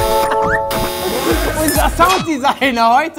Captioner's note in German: Buzzer; Dynamische Musik